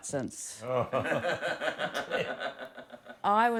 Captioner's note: they laugh